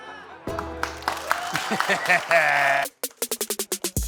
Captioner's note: audience applauds